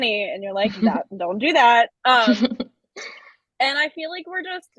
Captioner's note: chuckles